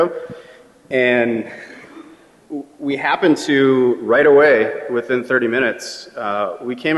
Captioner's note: laughter